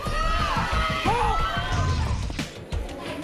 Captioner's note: crowd cheers